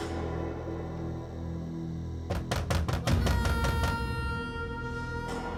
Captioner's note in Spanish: toques en la puerta